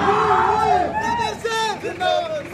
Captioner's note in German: Geschrei